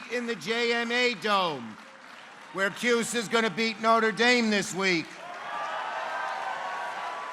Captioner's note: applause